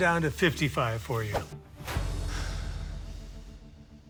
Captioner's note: exhales sharply